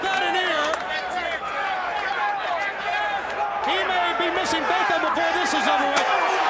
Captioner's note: crowd chatter